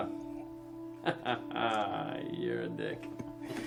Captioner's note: chuckles